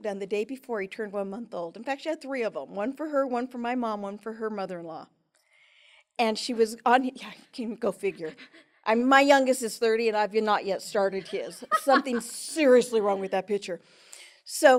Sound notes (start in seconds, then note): 11.1 laughs